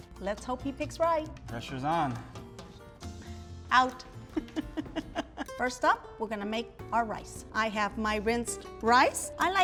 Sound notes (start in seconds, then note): 4.4 laughs